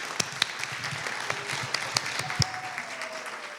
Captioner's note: applause